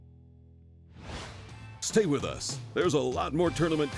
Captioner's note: voiceover